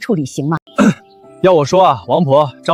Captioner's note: cough cough